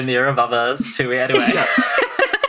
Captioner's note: laughing